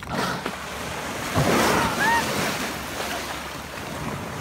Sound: blow hole snorting; onlooker shrieks; orca splashing

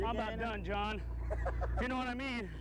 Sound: laughter

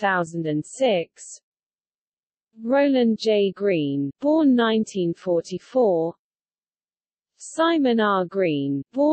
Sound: in Russian, Аркадий и Борис Стругацкие

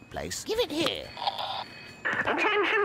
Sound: megaphone noise

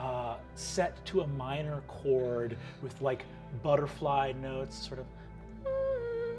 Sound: humming

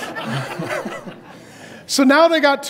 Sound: audience laughs

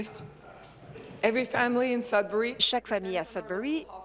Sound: speaking in French

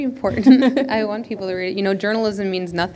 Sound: chuckle

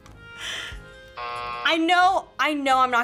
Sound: buzzer rings

